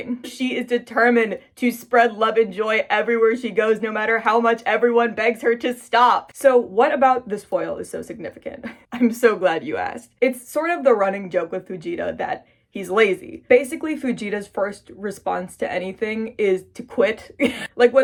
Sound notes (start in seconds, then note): 8.5 chuckles; 16.9 laughs